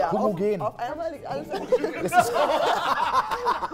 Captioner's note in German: Gelächter